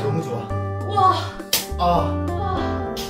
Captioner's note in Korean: 찰싹~